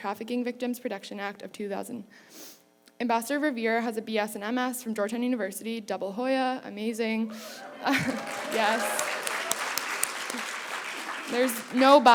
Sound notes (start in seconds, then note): 7.5 clapping